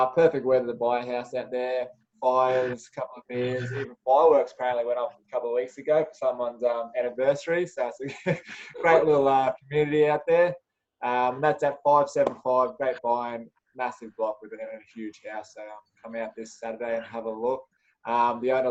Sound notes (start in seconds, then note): 8.0 chuckles